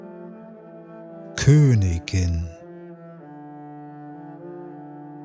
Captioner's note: german